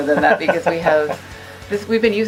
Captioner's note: laughs